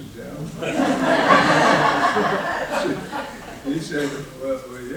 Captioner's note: laughing